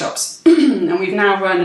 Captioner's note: clears throat